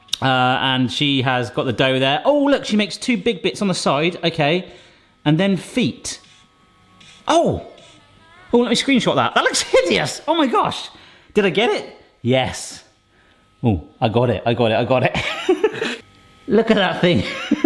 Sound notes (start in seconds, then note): 15.2 laughs